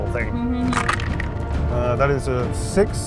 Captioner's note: dice clinks